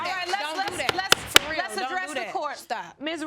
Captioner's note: bangs gavel